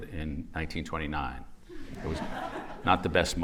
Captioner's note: laughter